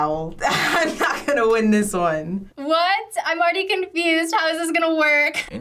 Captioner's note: laughs